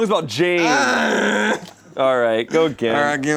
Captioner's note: groans